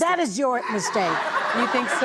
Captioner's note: audience laughing